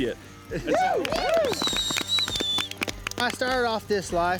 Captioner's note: cheering, applause